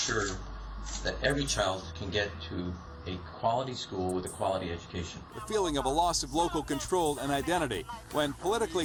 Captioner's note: none